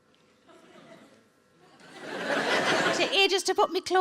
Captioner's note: audience laughing